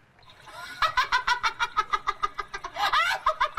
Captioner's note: scary laugh